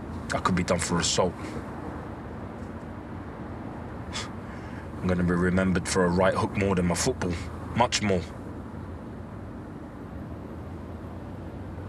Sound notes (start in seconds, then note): 3.7 he scoffs